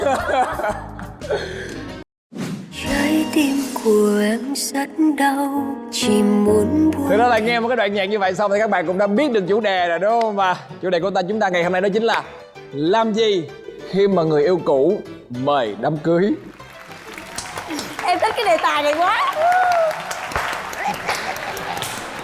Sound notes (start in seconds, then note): 0.0 laughter; 16.4 applause